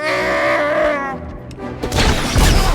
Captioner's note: shouts in Shyriiwook